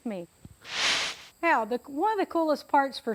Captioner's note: whooshes